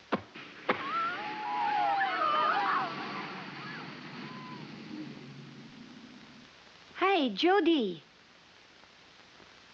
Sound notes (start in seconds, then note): 0.7 girls cheering